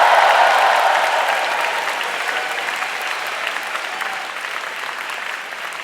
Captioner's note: audience cheering and applauding loudly